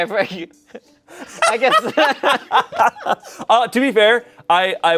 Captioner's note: group laughing